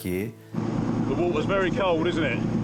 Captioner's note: boat droning